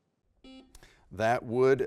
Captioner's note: buzzer beeping